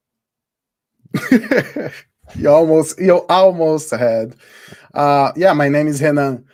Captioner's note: laughs